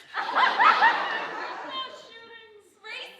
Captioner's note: audience laughing